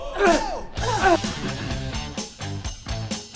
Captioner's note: clears his throat